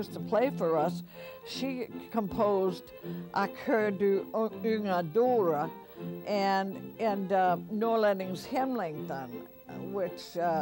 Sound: non-english

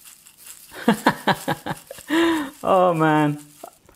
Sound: laughs

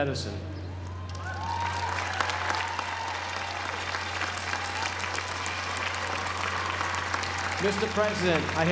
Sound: applause

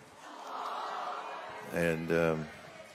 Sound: audience exclaiming

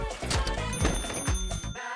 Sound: bell rings

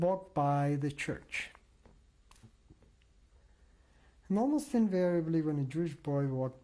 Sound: pauses for 3 seconds

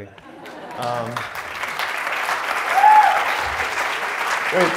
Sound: audience applauds

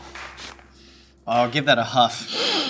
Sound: sniffs

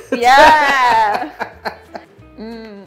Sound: laughter

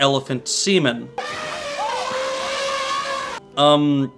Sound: elephant trumpeting

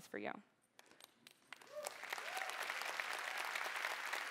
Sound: cheering

